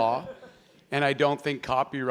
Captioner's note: laughing